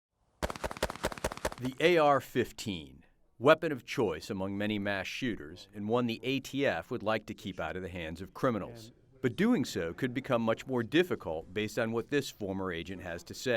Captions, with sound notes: [gunshots] - The AR-15, weapon of choice among many mass shooters, and one the ATF would like to keep out of the hands of criminals. But doing so could become much more difficult based on what this former agent has to say.